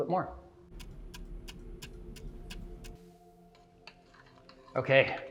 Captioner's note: clock ticks